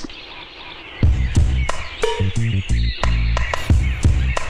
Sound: birds Chirping

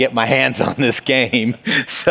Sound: laughs

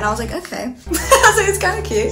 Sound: laughs

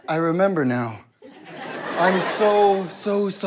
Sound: audience laughter

